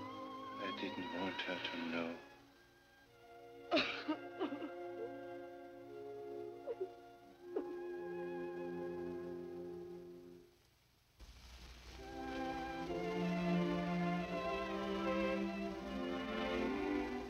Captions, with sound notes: - I didn't want her to know. (Nadya crying) (gentle music)